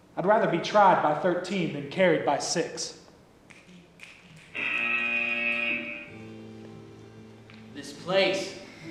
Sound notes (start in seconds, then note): 4.5 buzzer